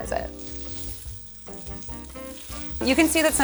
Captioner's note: pan sizzling